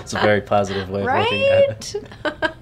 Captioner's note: laughs